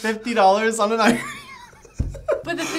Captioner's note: both laughing